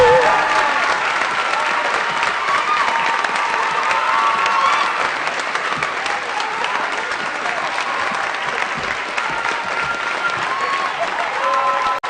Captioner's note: applause